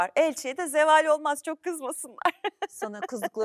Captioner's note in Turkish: kahkaha